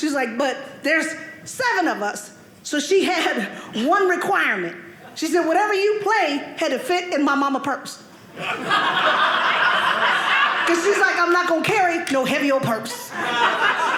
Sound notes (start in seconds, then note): 8.3 audience laughing; 12.9 audience laughing